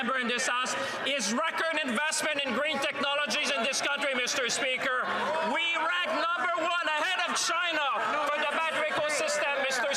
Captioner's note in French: voix de l'interprète